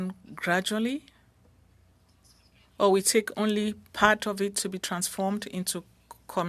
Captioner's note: speaking French